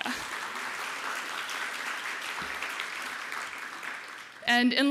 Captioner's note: applause